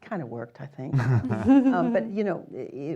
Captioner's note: chuckles